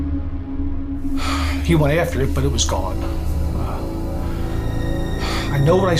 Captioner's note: sighs